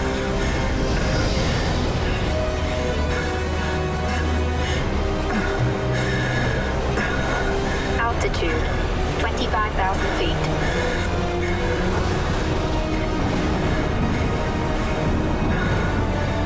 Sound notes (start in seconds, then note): 4.8 grunting; 11.9 thundering